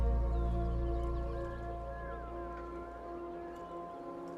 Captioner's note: birds chirping